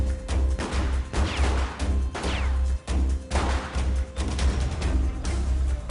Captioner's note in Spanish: Disparos